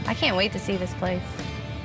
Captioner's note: none